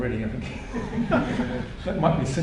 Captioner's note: laughter